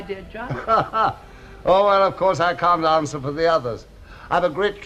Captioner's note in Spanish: Risas